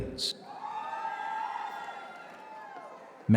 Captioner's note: applause